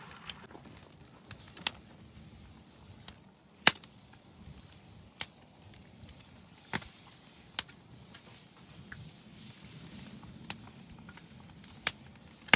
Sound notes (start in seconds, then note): 0.0 butter sizzling